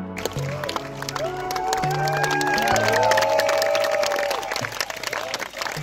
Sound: guests cheering and clapping

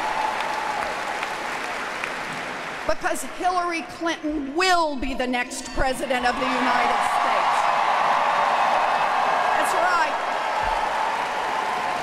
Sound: applause

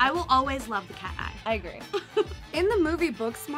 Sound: laughs

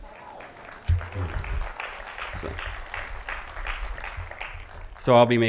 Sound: applause

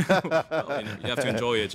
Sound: both laughing

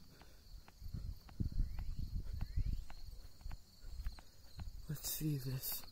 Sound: birds Chirp/Echoes Filter Through

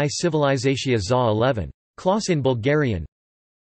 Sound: in Bulgarian

